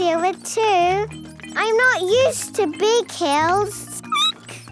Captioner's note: squeaking